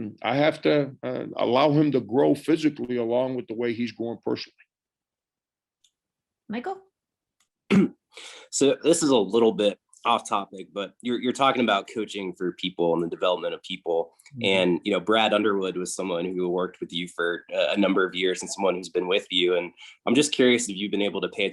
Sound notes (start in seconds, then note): 7.6 clears throat